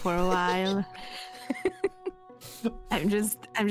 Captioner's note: laughter